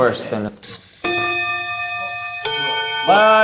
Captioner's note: the bell suddenly rings out in a peaceful classroom